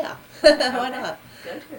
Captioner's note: laughs